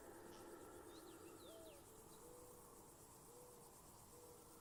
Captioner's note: birds chirping